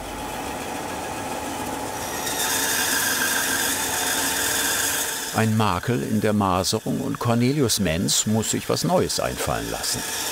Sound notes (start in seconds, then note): 2.0 high sawing noise